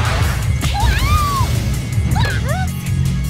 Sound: screams

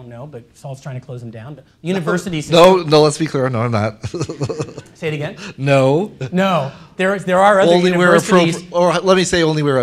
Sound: laughter

